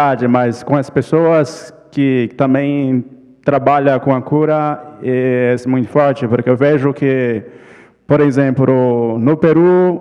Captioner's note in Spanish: ponente habla en portugués